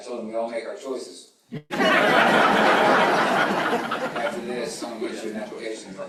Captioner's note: laughter